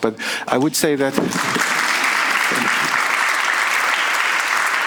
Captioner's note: audience applauds